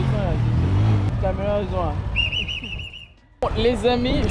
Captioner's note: laughs